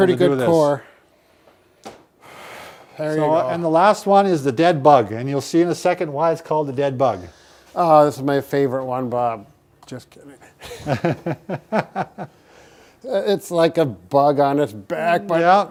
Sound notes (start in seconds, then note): 10.5 laughing